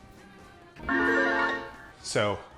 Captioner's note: electronic tones